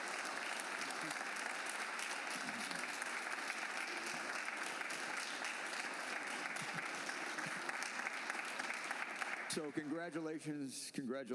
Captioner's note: cheers and applause